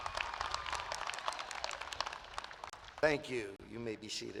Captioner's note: applause